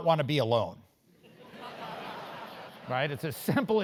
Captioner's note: laugh